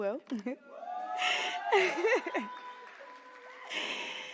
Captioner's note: applause; chuckles